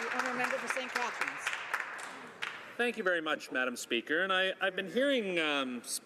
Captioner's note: some Applause